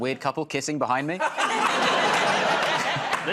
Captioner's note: laughter